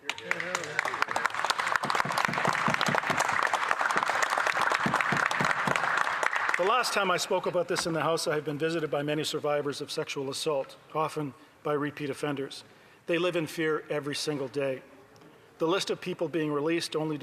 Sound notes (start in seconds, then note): 5.5 some Applause